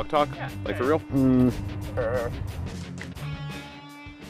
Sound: throaty sounds

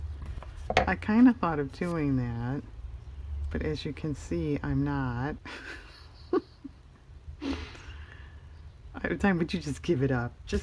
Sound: laughs

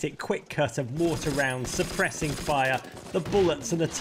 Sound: gunshots

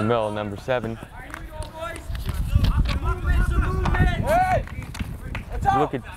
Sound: players talking and yelling

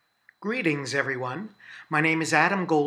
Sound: voiceover

